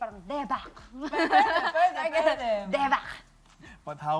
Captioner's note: chuckles